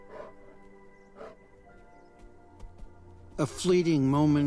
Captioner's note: bears pant